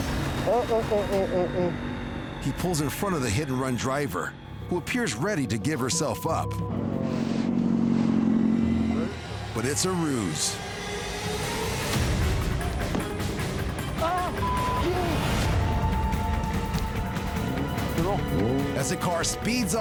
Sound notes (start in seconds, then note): 10.6 suspenseful music; 14.2 speaks in foreign language; 16.0 suspenseful music